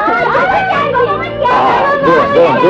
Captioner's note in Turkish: Babamız geldi, diyen çocukların sevinç çığlıkları